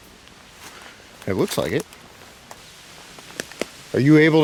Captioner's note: twigs cracking